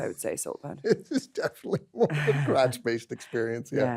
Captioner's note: laughs